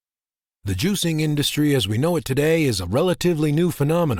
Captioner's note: voiceover